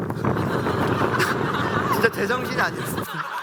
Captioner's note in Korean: 웃음